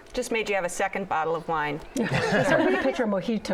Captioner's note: laughter